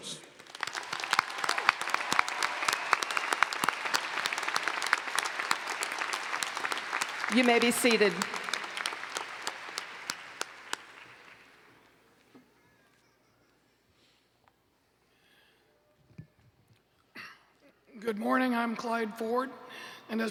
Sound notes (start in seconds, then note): 4.5 applause